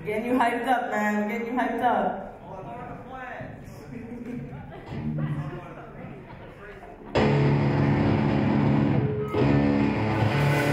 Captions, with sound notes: - We're getting you hyped up, man. We're getting you hyped up. (audience chatter) (upbeat rock guitar)